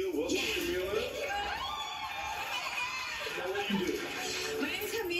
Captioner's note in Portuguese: Aplausos